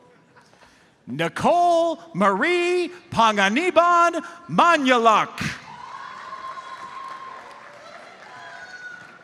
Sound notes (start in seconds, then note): 5.8 audience applauds